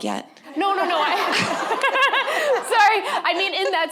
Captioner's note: everyone laughing